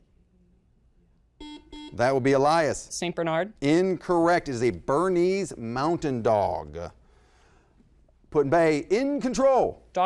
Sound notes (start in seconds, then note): 1.4 beeping